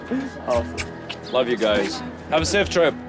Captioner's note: smacks of kisses